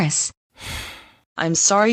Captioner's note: sighs